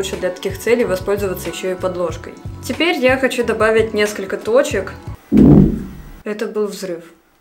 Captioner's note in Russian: громкий грохот